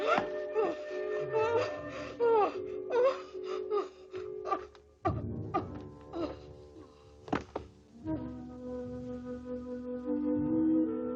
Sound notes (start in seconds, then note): 0.1 Sheena gasps; 5.5 Sheena coughs